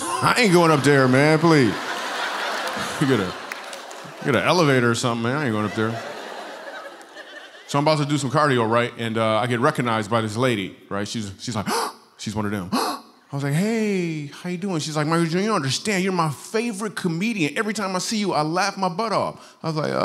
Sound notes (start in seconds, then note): 0.7 laughter; 5.6 laughter; 12.7 gasp